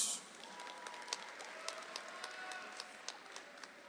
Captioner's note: audience applauds